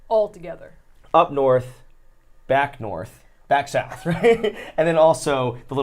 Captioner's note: laughs